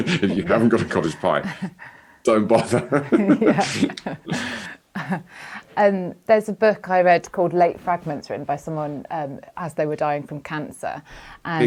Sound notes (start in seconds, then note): 2.3 laughs; 2.3 chuckles